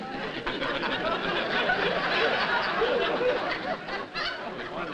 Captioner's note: laughter